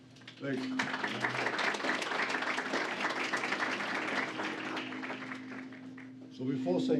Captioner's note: applause